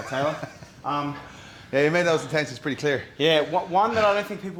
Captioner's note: laugh